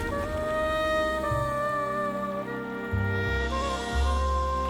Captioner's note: screams; dramatic music